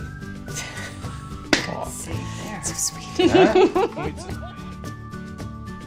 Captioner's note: laughs